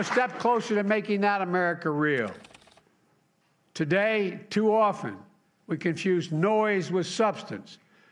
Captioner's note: applause